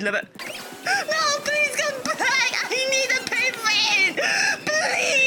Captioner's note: hotdog inhaling gasp